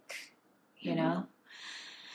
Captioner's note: sighing